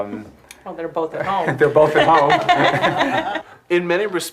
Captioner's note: laughs